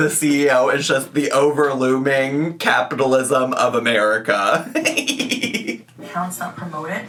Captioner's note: laughs